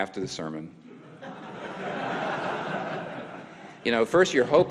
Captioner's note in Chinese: 會眾笑